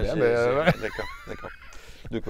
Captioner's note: laughter